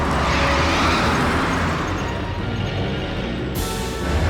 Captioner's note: tires screeching; tense music continues